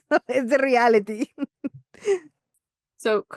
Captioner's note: laughs